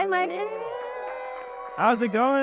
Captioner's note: audience applauding and cheering